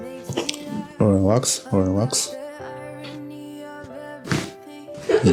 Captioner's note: crunches of bones